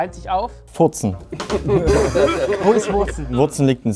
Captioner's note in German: Schelmisches Lachen